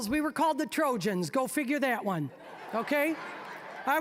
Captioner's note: audience laughing